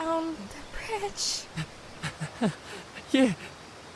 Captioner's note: weak laugh